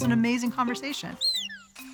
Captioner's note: whistles